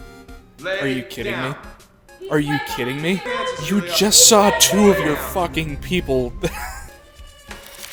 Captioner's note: wheeze